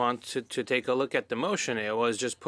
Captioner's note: speaking French